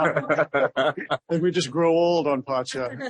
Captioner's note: laughter